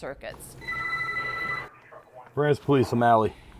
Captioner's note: phone rings